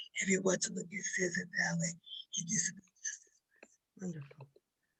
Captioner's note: speaking faintly